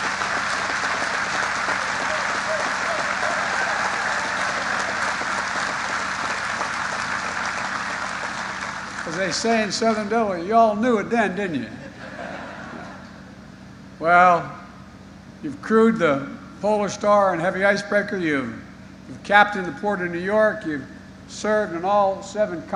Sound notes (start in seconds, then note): 0.0 applause